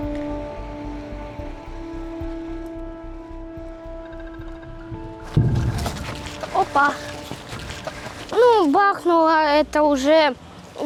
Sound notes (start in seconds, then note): 5.3 explosion sound